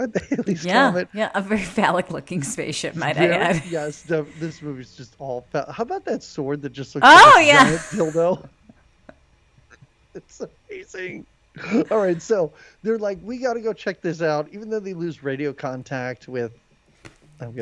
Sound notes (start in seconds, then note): 2.8 laughs; 11.7 laughs